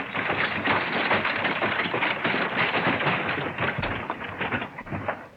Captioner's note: horses walking; wagon bouncing